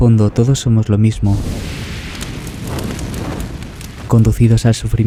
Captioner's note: fire